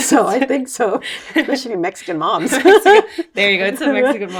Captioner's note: laughs